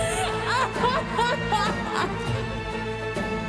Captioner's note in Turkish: Ağlıyor